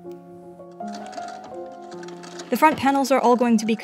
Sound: more antique sewing machine ASMR

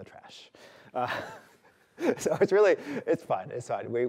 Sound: laughs

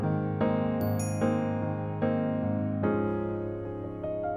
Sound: bell dings

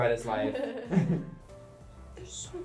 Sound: both laugh

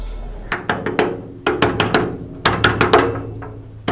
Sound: knocking on the door

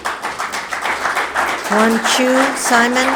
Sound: spectators applauding

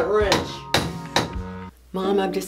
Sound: pounding pipes

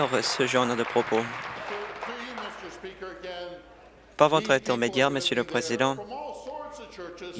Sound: applause

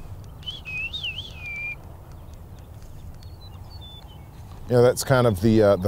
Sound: meadowlark sings

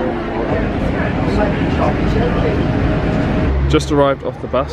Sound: passengers chattering

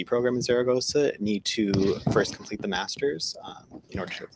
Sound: murmurs

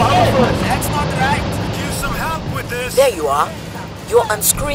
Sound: cacophony of labor and voices

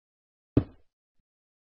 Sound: block breaks

